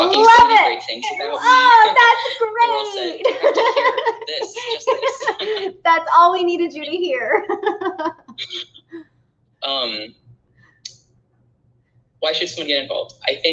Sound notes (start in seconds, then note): 3.9 laughing; 7.3 laughing